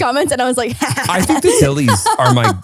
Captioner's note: laughs